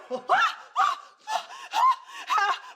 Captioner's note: Eleanor screams; screams; Barry and Eleanor panting